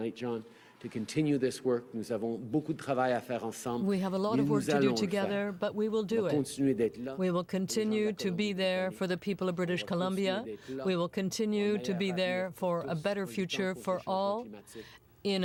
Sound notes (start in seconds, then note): 7.1 speaking French